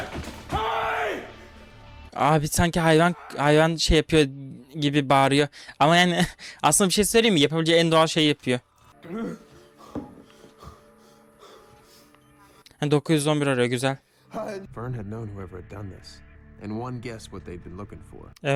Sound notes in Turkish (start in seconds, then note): 11.3 nefes nefese kalma